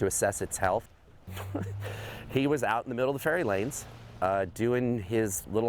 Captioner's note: chuckles